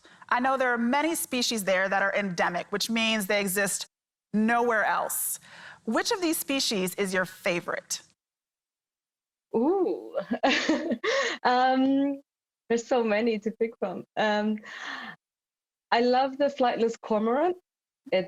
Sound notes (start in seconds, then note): 10.3 laughs